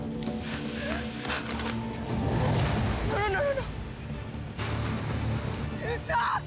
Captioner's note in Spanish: Sollozos